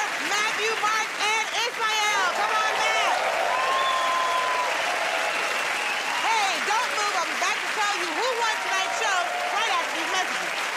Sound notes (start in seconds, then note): 3.7 cheers and applause